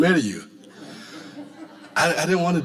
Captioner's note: audience laughing